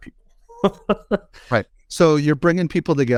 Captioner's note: laughing